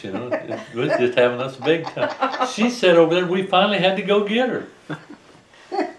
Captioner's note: laughter